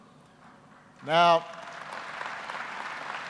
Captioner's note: applause